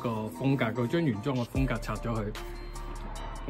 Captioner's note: none